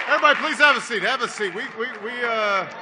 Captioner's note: applause